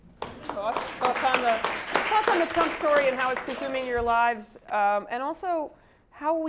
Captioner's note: applause